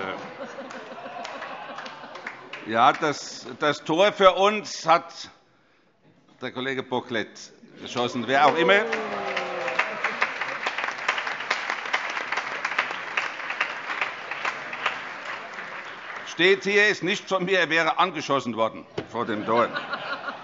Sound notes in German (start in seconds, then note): 0.0 Heiterkeit; 7.9 Beifall; 19.2 Heiterkeit